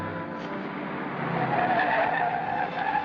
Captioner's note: car approaching; brakes screeching